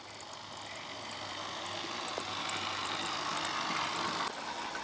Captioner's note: engine roaring softly